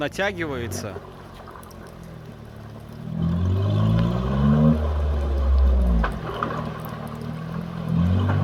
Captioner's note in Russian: Звук рёва мотора